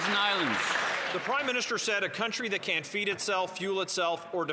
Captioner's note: some Applause